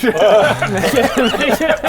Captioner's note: laughs in chicken